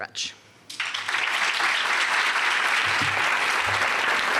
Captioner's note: applause